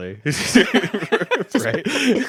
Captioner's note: laughing